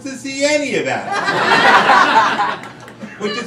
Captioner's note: crowd laughing